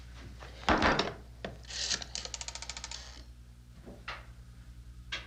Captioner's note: phone clicking